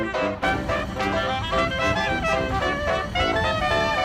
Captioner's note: cable sounds against metal objects